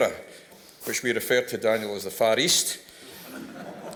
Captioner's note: laughter